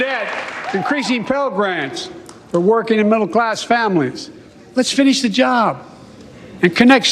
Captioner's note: cheers and applause